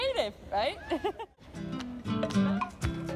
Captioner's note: ha ha